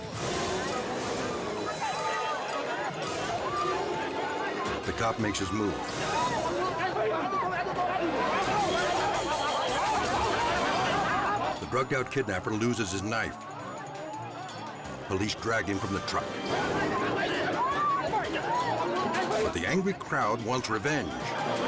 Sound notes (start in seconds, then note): 0.0 dramatic music; 6.2 captor and bystanders clamor; 17.0 mob clamors